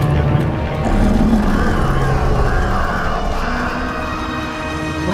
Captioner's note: earth-shattering roar